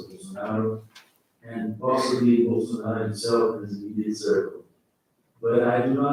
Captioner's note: faintly speaking